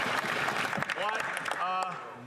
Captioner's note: some Applause